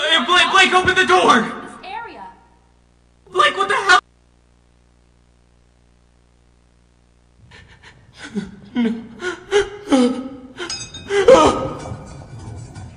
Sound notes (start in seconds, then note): 10.6 clanging metal; 11.0 crying in pain; 11.1 cries in alarm